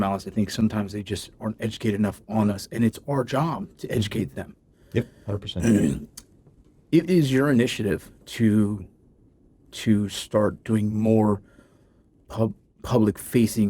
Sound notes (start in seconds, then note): 5.5 clears throat